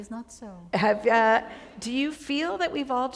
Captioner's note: chuckle